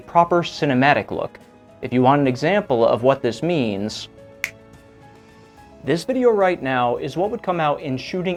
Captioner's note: snap